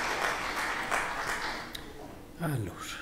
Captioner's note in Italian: Applauso